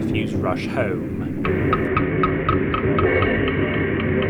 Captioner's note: bonking for footsteps, cymbals for thunder